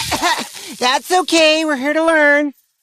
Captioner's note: coughs